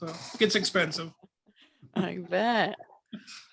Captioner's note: laughs